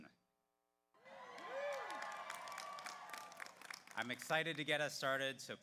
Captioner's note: audience cheers; audience applauds